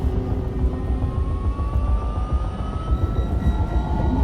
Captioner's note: sub whirring